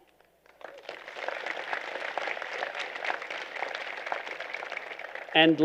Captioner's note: applause